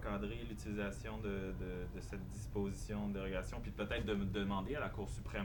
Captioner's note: speaking French